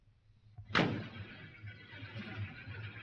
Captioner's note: car door closes